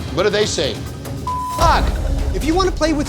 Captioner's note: beep